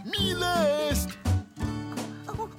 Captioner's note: giggle